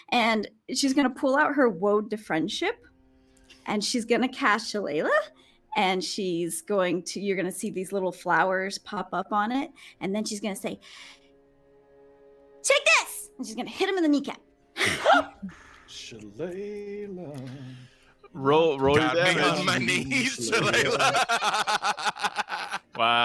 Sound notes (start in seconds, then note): 14.8 both laughing; 21.9 laughs